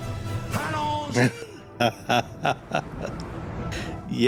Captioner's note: laughing